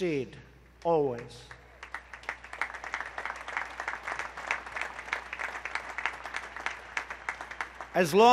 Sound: applause

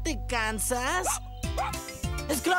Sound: barking

